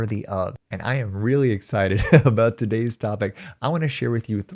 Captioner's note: chuckles